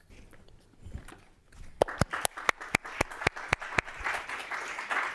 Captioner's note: applause